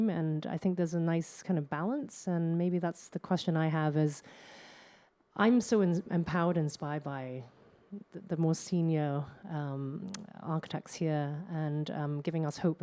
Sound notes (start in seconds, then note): none